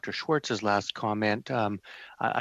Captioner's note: speaking French